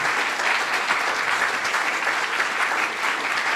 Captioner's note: applause